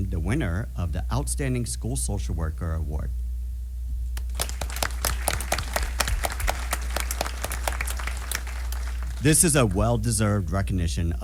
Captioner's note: applause